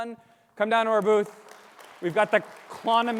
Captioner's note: audience applauding